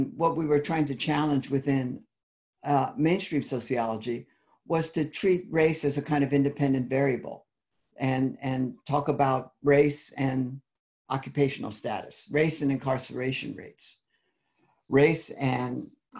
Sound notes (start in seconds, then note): none